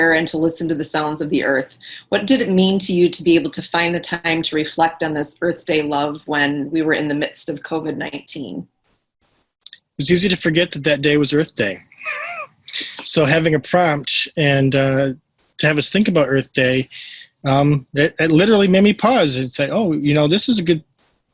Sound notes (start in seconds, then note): 11.9 laughs